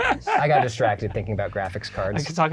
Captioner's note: laughing